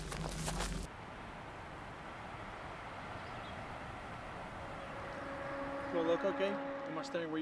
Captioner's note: cars whoosh past in distance; birds chirp